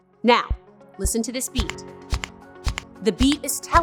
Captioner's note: click, click, click, click; upbeat music